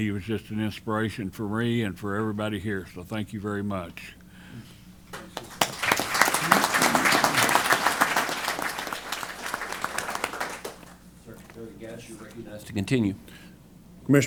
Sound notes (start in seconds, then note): 5.1 applause